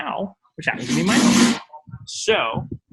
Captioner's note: drags chair